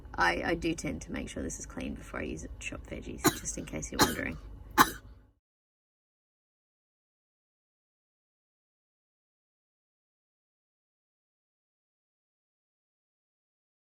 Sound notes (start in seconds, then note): 3.9 coughs more